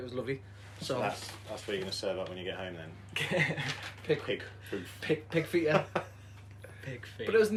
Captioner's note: laughter